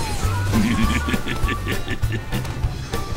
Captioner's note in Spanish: risa macabra